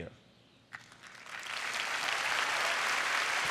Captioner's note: applause